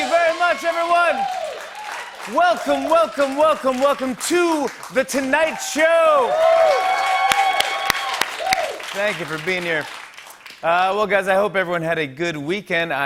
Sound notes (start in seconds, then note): 6.2 cheers and applause